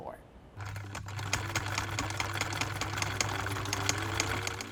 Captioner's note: sewing machine hums